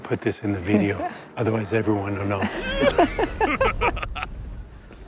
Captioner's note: laughs